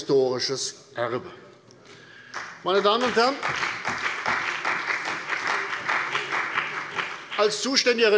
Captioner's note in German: Beifall bei der CDU und dem BÜNDNIS 90/DIE GRÜNEN